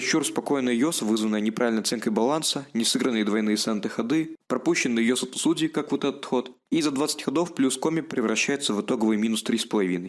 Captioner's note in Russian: Звуки новостей